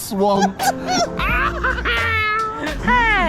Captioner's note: both laughing